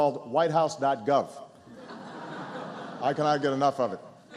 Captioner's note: laughter